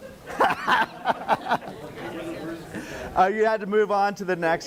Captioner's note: laughing